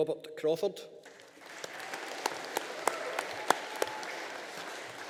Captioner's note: audience applauding